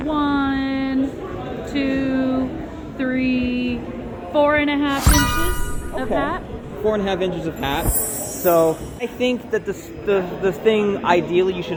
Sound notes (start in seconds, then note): 4.9 achievement sound; 7.9 glittery sound